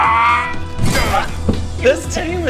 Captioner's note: grrgh